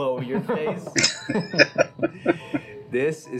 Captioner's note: laughing